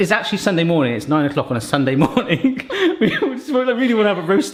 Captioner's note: laughs